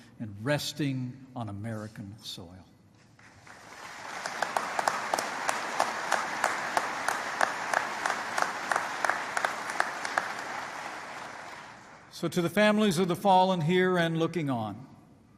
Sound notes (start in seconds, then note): 3.2 applause